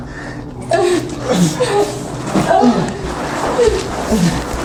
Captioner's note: Tina and Miles panting and grunting; plastic tarp rustles